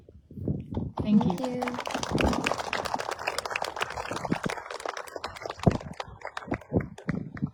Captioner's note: applause